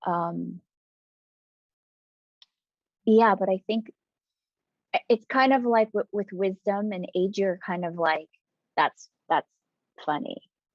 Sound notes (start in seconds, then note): none